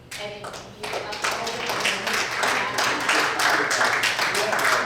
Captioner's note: audience applauds